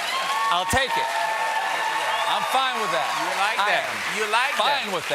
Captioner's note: cheers and applause